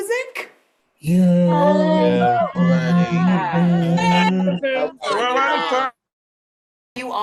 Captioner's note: cheering